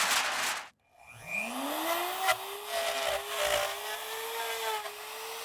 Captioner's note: drill sound